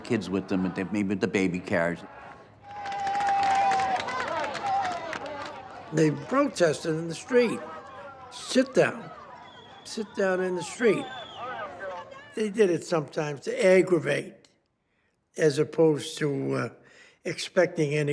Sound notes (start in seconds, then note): 3.1 clapping and cheering